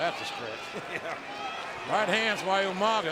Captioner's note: laugh